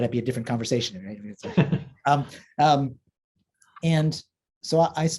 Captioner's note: laughing